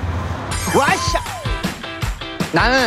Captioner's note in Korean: 환호